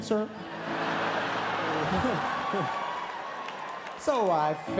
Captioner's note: audience laughs